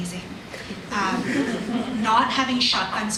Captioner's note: audience laughs